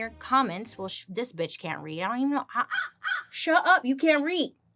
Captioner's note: Joan caws